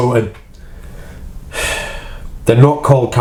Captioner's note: sighs